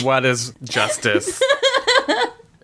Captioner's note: laughs